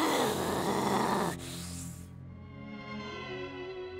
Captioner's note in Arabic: يستمر الهدر الغاضب